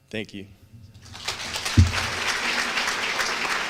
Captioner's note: applause